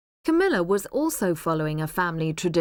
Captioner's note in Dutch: none